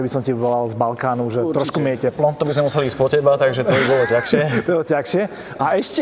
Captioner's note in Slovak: smiech